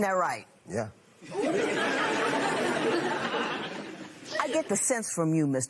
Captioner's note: laughter